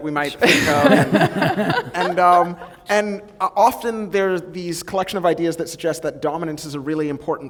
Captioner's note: laughter